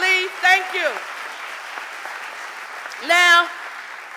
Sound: audience applauding

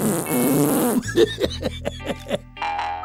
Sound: laughs

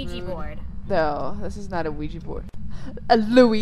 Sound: gasp

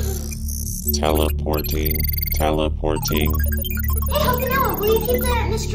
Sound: computer Voice

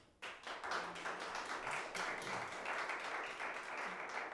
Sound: audience applauding

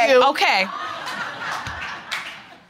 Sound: audience laughing

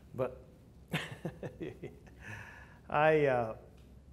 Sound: laughter

